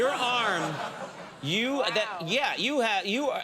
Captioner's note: audience laughing